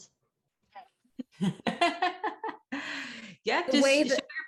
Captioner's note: laughing